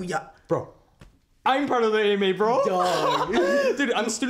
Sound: laughs

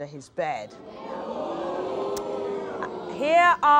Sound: audience gasps

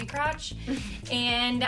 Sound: breathes out

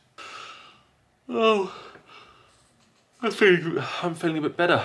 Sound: yawns

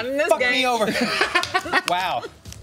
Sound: laughs

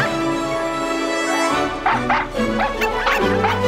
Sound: barking; barking

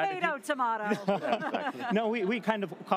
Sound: all chuckles

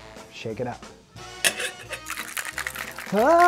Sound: ice clattering; laughing

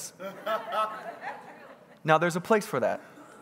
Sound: congregants laughing

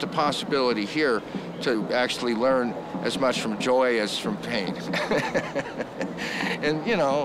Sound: laughing

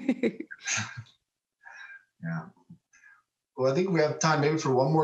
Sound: laughs

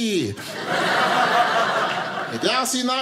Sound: audience laughing

